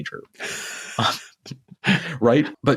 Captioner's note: laughing